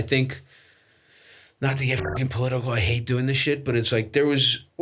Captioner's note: beeps